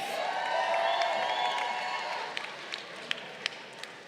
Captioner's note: crowd cheering